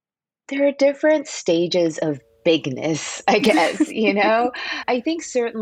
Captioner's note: laughter